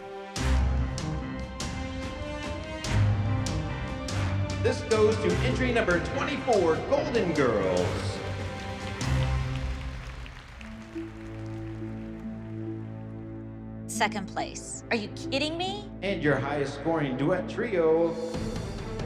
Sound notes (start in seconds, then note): 7.7 applause